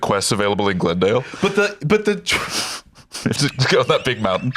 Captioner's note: laughs